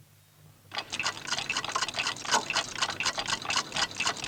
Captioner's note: clocks ticking